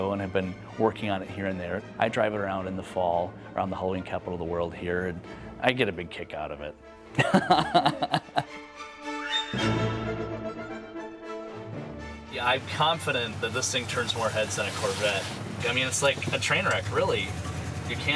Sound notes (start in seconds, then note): 7.2 laughs; 9.0 dramatic music